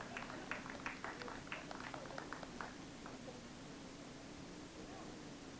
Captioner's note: scattered applause